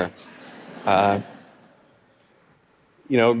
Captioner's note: audience laughing